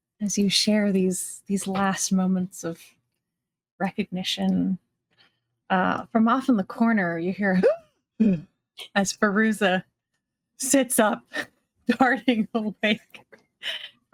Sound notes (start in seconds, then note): 8.0 gasping